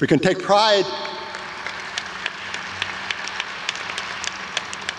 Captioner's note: adience applauds